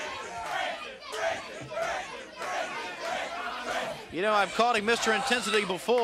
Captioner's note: crowd cheering